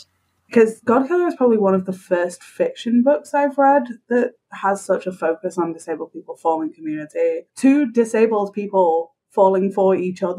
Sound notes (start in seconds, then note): none